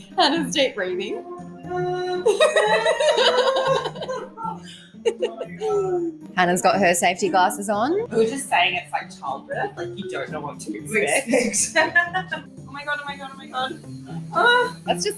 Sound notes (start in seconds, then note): 2.2 breathing loudly while friend laughs